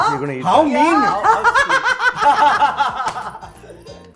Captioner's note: laughing